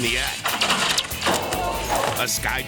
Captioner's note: metal clanking; image whooshes